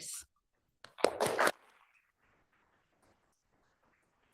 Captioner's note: applause